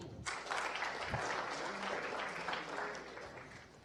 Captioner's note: applause